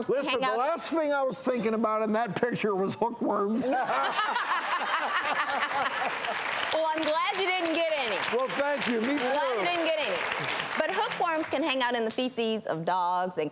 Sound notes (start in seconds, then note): 3.6 laughing